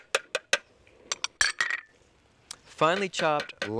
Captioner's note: glass bowl clanking